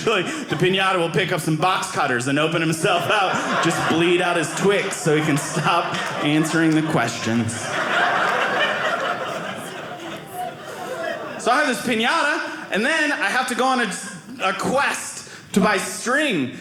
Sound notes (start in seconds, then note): 7.6 audience laughing